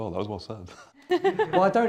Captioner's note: laughter